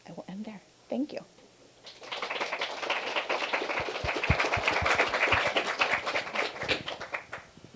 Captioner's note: applause